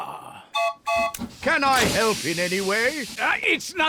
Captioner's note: toots horn